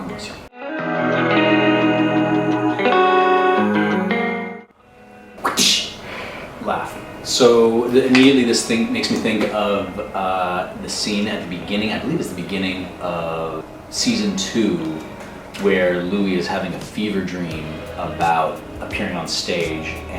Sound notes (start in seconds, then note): 5.4 whip sound